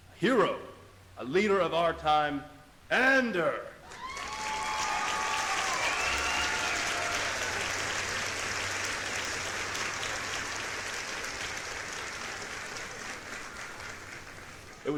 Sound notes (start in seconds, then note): 4.5 crowd cheering; 11.1 crowd applauding